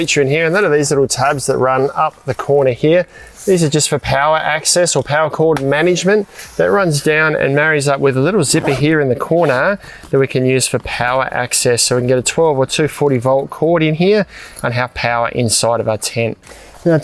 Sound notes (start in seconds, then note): 6.3 zipper squealing